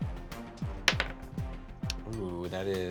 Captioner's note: rolls dice